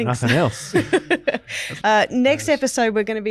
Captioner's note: laughs